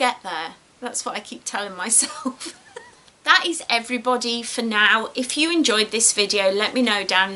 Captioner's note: laughs